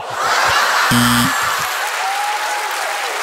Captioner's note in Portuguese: campainha